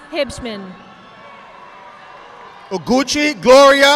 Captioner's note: audience clapping